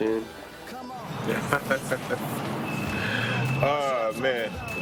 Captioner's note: laughs